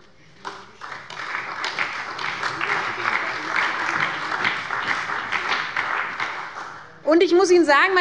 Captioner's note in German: Allgemeiner Beifall